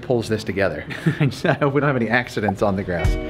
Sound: laughs

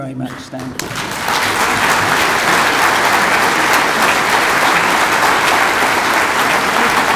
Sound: audience applauds

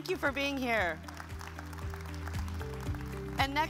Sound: upbeat music; audience applauds

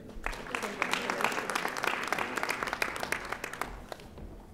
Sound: audience applauding

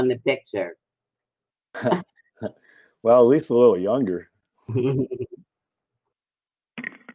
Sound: laughter

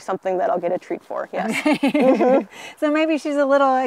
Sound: laughs

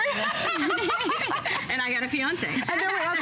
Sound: laughter

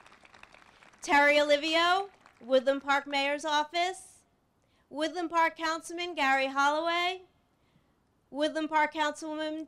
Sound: applause

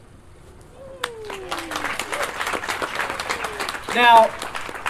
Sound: audience Applause

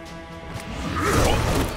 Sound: grunting

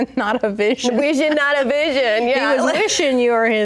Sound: laughs

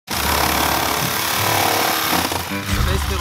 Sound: saw buzzing

